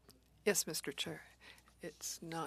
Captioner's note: speaking French